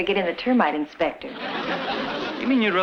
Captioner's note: audience laughs